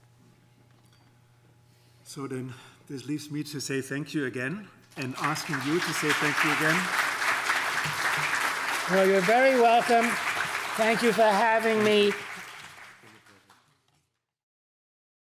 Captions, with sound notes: - So then this leaves me to say thank you again and asking you to say thank you again. (audience applauding) - Well, you're very welcome. Thank you for having me.